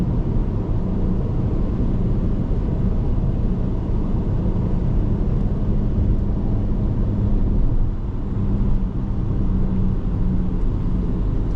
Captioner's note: car engine